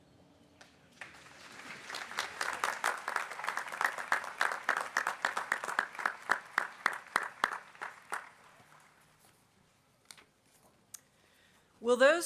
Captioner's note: applause